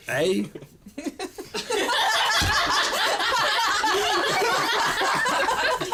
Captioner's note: laughter